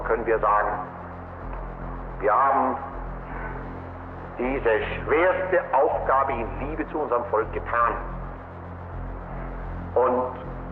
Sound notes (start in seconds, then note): 2.3 Himmler continues speaking German